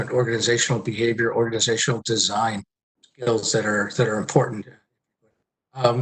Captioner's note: murmurs